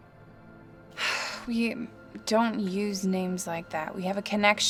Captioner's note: sighs